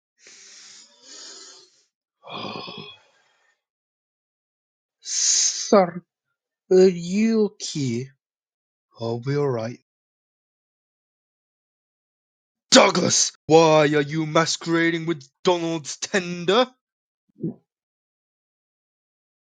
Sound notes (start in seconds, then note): 0.2 heavy inhale and exhale; 17.9 gulp